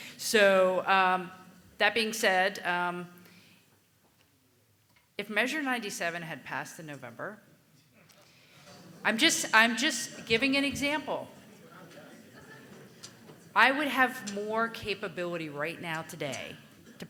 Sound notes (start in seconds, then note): 8.5 audience murmuring